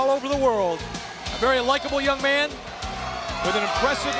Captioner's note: audience cheers